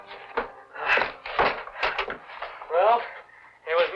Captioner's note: clattering